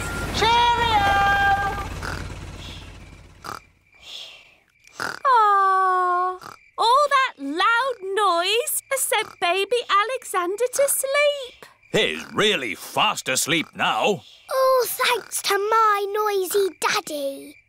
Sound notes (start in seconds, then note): 1.6 baby alexander snoring